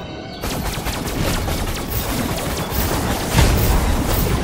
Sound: gun firing

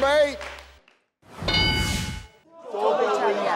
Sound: metallic chime

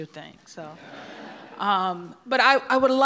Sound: audience laughs

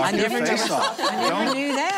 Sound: laughing

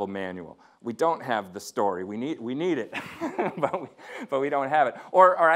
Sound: laughing

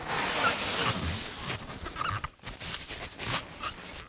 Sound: squeaking

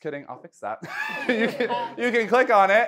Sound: laughing

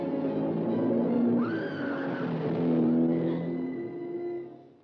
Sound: June screams

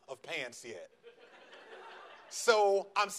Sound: audience laughs

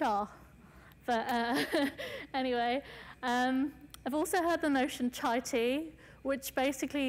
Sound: laughs

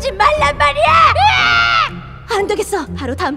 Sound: gargghhh!!!

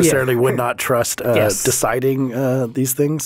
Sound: laughing

